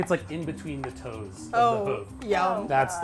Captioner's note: knife chopping